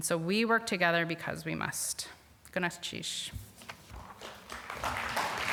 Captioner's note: applause